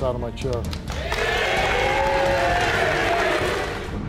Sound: audience cheering; dramatic music

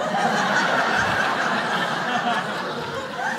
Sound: crowd laughs

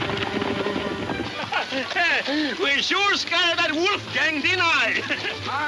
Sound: laughing

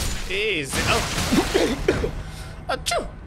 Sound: stilted cough

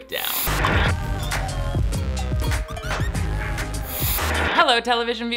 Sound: theme music; logo whooshing

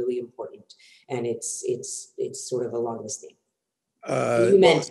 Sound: murmurs

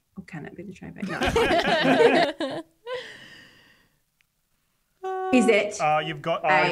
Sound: laugh

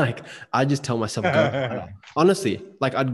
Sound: laughing

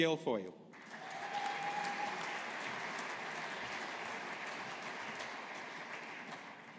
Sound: audience applauding

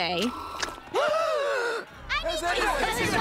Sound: gasping

